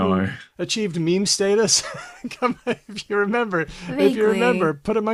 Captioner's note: laughs